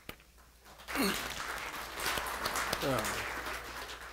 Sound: applause

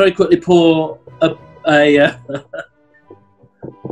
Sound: chuckles

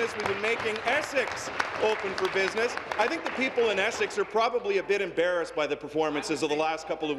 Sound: applause

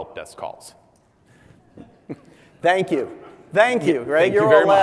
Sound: laugh

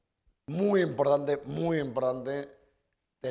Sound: speaking spanish

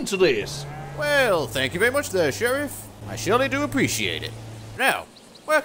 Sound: rubbish country accent

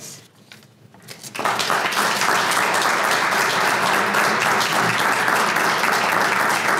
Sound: applause

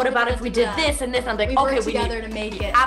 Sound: murmurs

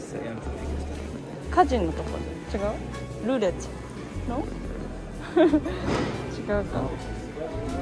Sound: laughs

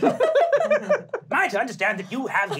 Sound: laughing

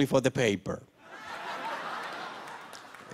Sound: laughter

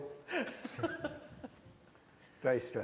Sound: laughter

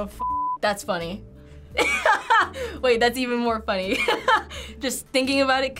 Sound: laughs

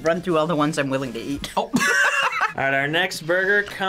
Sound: laughs

